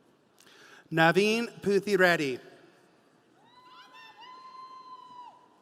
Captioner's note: audience cheering